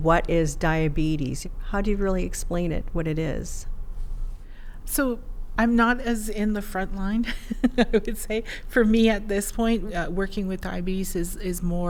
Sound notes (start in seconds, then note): 7.3 laughs